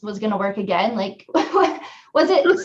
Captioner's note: laughs